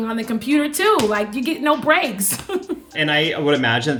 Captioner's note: giggles